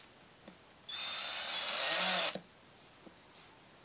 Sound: whirring drill

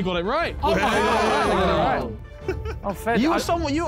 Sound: men cheering

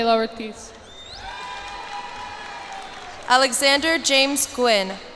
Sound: cheers and applause

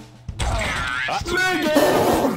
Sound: surprised

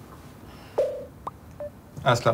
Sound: cell phone popping-bling sounds

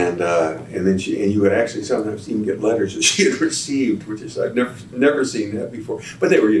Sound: laughs

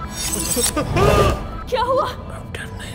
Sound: Shorya screams

